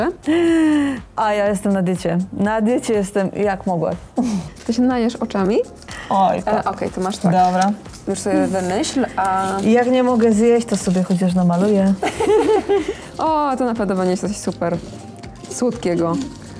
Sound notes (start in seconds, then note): 12.0 laugh